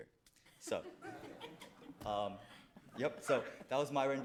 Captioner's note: all chuckle softly